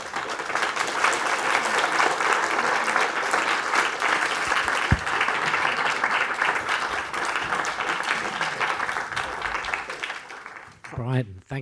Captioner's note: applause